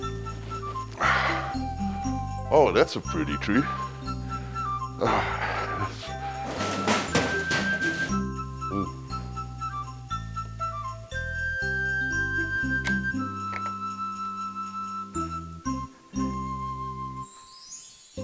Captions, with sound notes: Oh that's a pretty tree. (crash) (light and merry music)